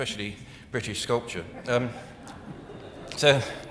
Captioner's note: audience laughing